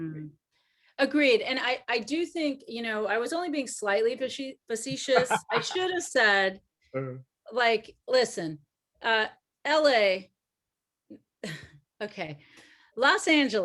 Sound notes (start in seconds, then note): 4.9 laughs